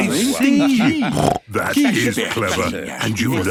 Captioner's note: snort